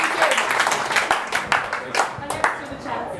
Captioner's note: audience cheering